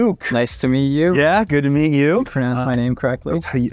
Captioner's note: none